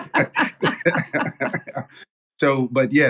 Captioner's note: laugh